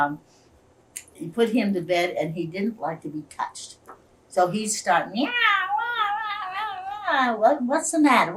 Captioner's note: imitates baby crying